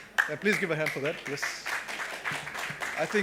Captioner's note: applause